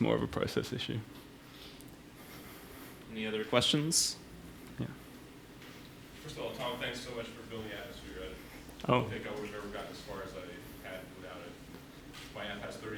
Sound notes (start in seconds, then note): 5.9 voiceover; 9.7 voiceover